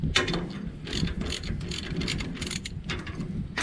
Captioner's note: metal clanking